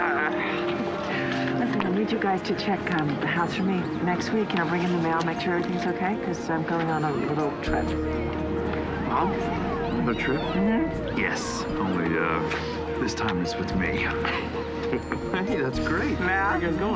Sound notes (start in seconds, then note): 14.0 laughs